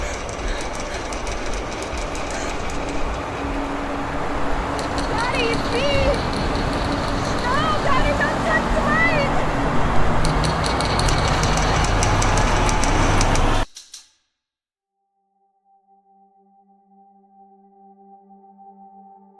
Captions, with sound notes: Daddy, it's me! No, daddy, don't touch the light! (eerie music) (typewriter keys clacking)